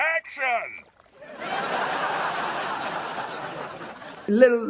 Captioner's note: laughs